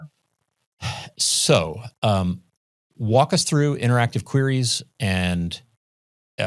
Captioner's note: sighs